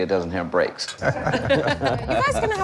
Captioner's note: laughter